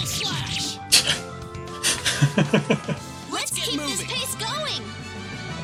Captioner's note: laughs